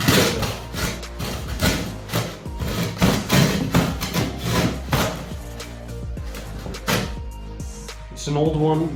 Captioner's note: saw noises